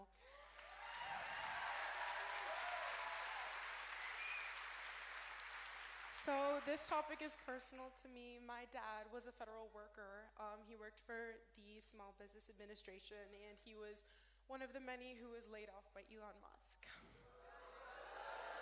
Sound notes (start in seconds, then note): 4.0 cheering